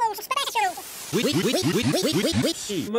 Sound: "wee" stuttering, varying pitch shift

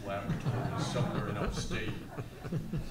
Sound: all laughs

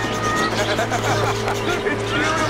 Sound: birds squawking; man laughing

